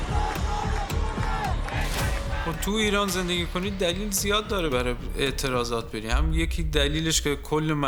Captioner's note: cheers